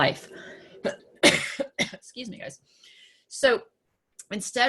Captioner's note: coughs